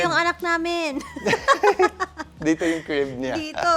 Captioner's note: laughs